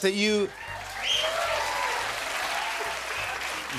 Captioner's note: cheers and applause